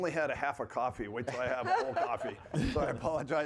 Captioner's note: panelists laughing